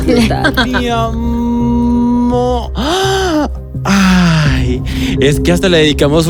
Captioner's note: gasp